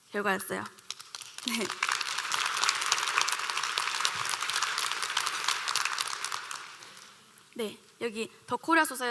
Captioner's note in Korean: 박수